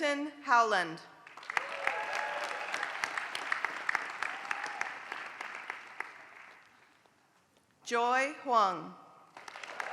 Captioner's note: applause; applause